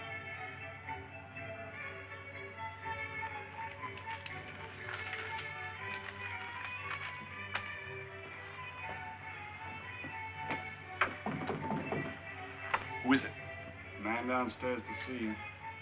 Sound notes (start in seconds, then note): 11.0 knocking on door